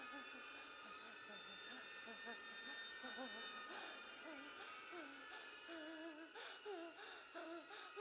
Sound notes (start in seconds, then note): 2.9 eerie music; 3.2 Julie whimpers